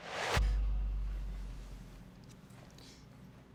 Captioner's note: bass heavy boom